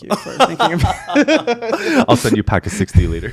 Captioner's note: both laughing